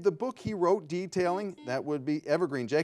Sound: buzzer beeping

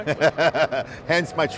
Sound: laughing

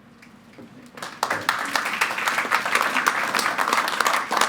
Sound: applause

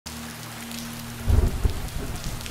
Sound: thunder

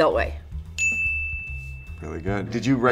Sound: ding

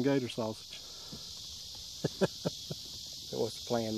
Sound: laughs

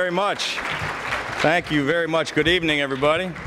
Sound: applause

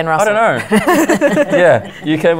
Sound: giggles

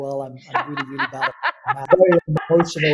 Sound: laughing

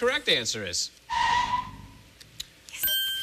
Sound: tires screeching

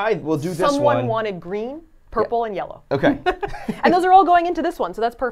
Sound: laughs

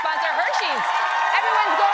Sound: applause

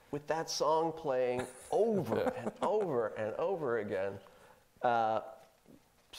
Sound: laughing

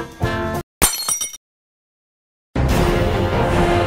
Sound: glass smash

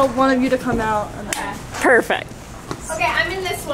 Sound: claps

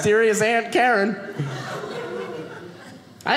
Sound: audience laughing

